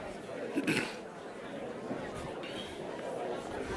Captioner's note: crowd chattering